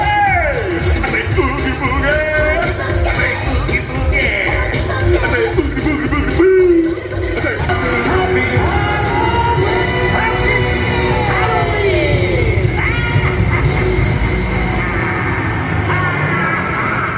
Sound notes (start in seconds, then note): 0.0 upbeat music; 10.3 upbeat creepy music; 14.9 laughing